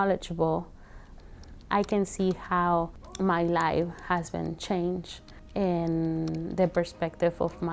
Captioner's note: keys clicking